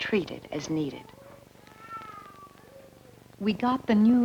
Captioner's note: children crying